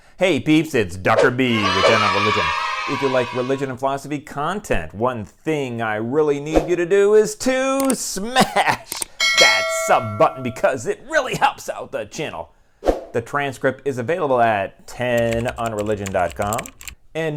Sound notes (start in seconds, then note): 1.4 kids cheering; 9.2 bell ringing; 15.1 keyboard typing